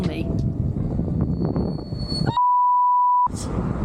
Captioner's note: screeching brakes